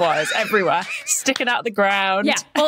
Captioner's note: wheezes